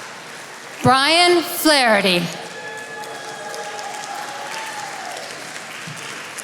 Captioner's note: attendees applauding; attendees applauding